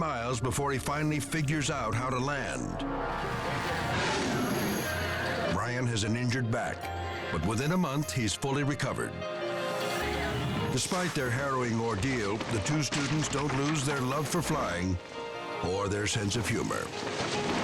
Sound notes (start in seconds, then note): 3.2 air whooshing